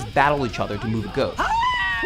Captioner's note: screaming